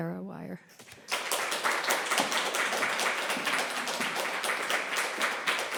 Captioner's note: applause